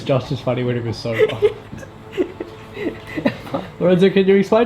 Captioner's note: laughing